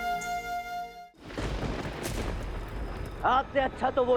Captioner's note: thunder rumbling